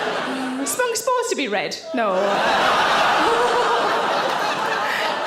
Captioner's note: audience laughing